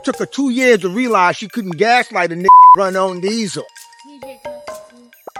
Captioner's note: beep